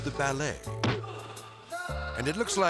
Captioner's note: kick thudding